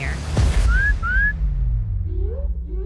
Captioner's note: whistling